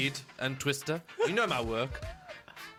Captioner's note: still losing it